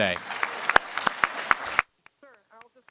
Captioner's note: applause